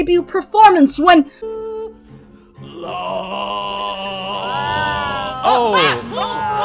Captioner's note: general confusion